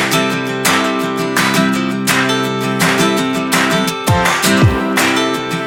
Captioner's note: applause